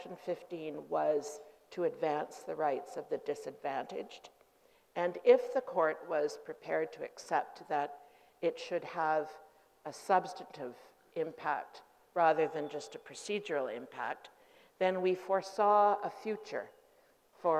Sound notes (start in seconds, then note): none